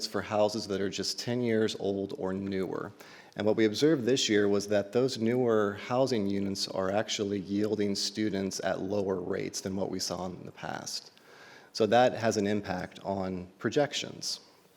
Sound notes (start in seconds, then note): none